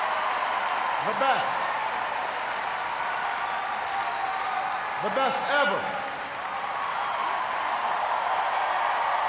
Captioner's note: cheers, applause